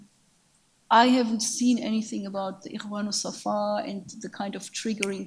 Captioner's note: speaks in a foreign language